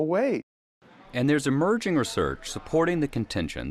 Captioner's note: voiceover